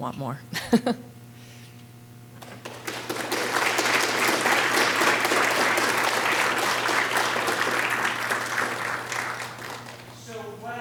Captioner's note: applause; laughter